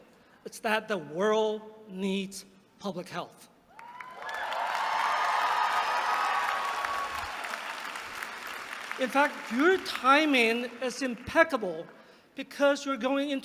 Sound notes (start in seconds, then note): 3.7 applause